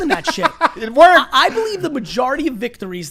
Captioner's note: laughs